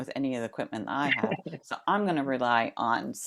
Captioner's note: laughter